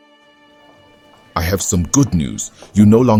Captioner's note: hospital background sounds